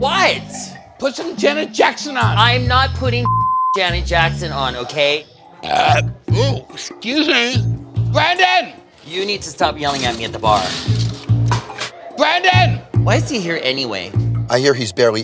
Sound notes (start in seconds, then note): 3.2 beep